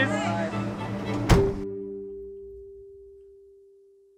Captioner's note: door shuts